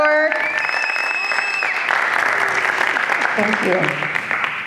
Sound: applause

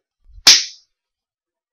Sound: slap

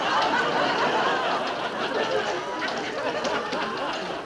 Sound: laughing; machine rumbling

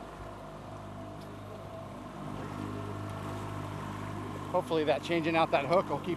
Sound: boat engine running

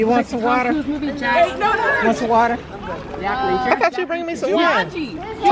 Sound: talking amongst themselves

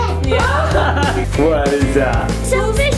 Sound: person laughing

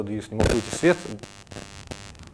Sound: buzzing

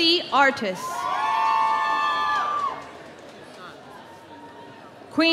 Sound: audience cheering

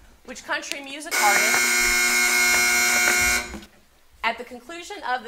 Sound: long buzzer sounding

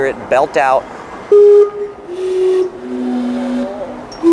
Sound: clock whistling

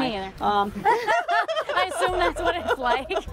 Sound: women laugh

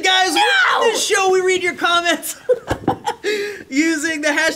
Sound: laughs

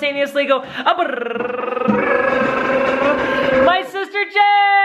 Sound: tongues rolling

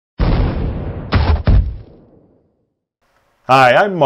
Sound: explosion

